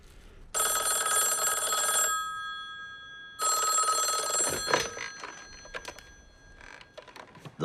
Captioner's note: phone rings